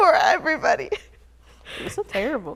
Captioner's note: chuckles